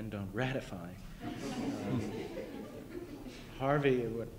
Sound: laughter

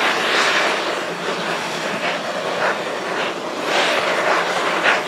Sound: safety valves hissing

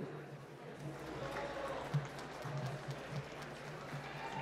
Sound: applause

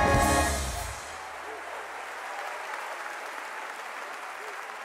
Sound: audience applauding

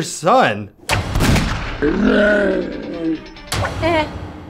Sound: gunshot, groans

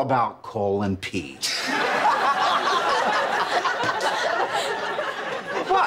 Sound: laughing

